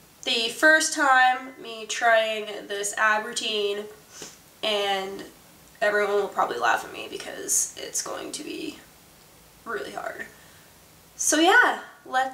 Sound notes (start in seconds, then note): 4.1 sniffs